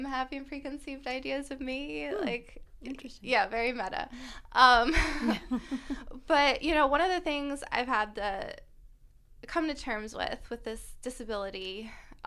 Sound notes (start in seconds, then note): 4.8 laughter